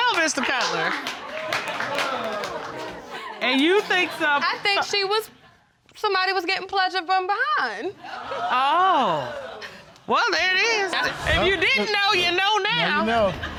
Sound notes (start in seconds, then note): 2.0 audience exclaiming